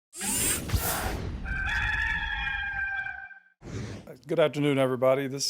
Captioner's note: rooster crowing